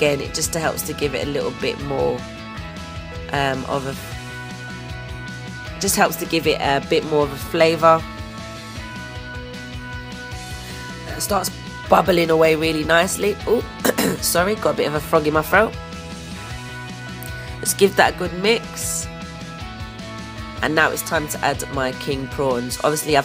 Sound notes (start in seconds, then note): 13.8 cough